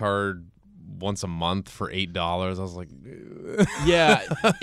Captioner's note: groans; laughs